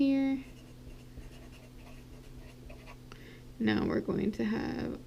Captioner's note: pen scratching